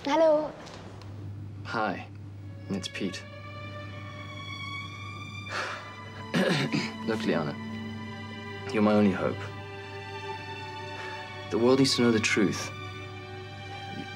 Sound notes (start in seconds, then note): 3.3 tender orchestral music; 6.3 clears throat